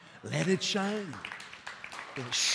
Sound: applause

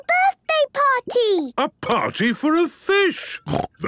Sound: snorting

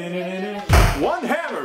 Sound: Sonic fuckin' dies SFX

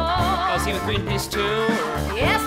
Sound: speaking

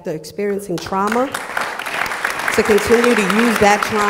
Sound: applause

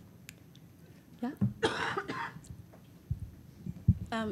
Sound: coughing

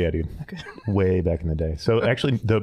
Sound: laughing

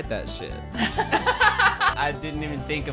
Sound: laughing

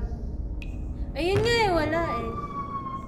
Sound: MIRA closes door

